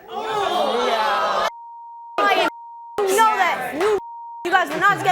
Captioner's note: beep